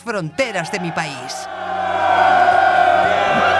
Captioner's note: soldiers cheer